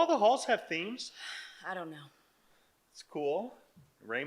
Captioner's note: sighs